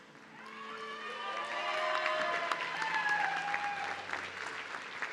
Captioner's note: audience cheering